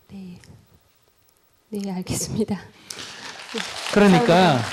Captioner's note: audience applause